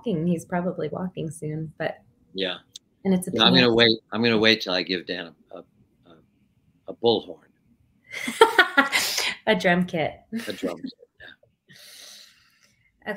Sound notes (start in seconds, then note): 8.1 laughs